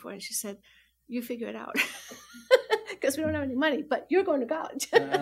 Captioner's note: laughs